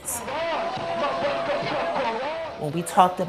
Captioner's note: crowd chanting